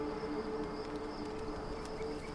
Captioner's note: crickets chirping